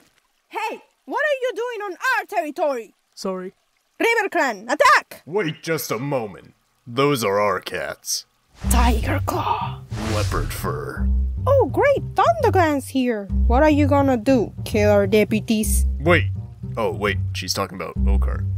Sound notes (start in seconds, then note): 3.3 quietly; 8.9 dramatically